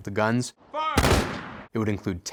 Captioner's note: rifles firing